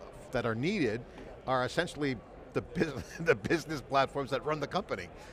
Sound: laughs

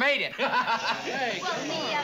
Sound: laughing

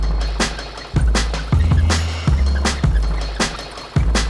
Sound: upbeat music continues; vehicle whirring

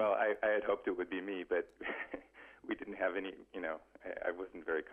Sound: laughs

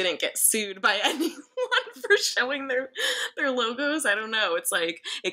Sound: laughs

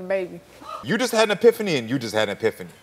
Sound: audience gasping

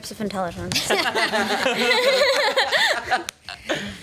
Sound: laughs

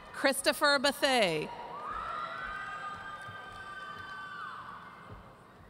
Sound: audience cheering

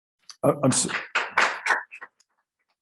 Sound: applause

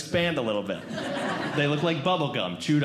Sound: audience Laughing

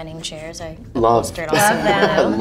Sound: laughing

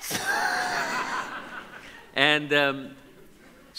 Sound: audience laughs

